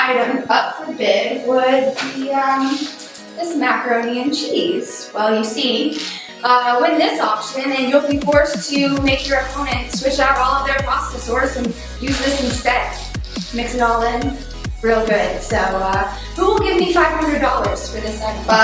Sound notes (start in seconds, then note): 13.3 sarcastically